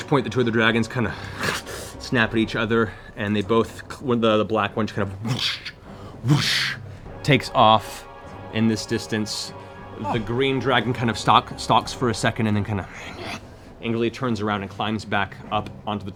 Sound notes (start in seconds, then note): 12.5 snarls